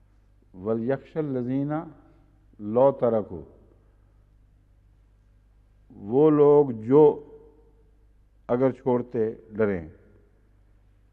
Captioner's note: Arabic